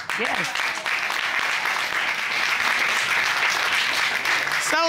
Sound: applause

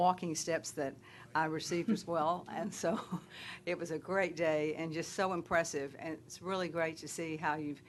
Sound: laughter

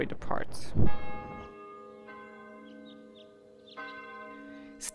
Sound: bell ringing

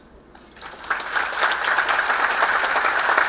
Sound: applause

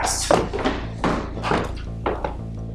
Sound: footsteps; footsteps slowing

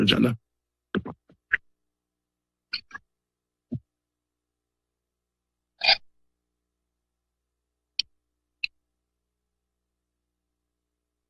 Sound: silence

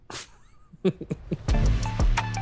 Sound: laughs

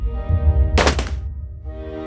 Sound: clunk

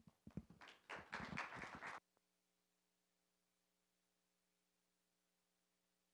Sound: applause

